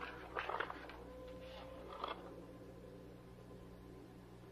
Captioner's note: papers rustling